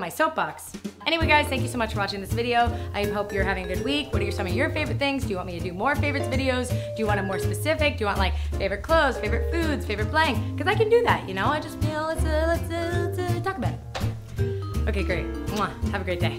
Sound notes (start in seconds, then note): 12.1 stutters; 13.9 smooch